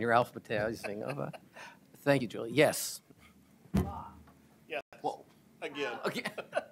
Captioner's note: laughter